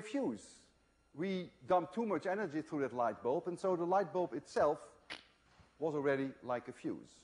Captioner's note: crack